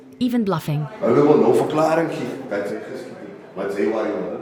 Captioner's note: xhosa spoken audio